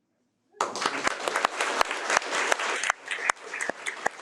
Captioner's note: audience applauding